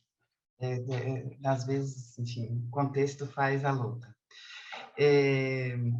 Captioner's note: begins speaking in Portuguese